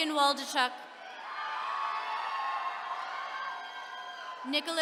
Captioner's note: attendees cheering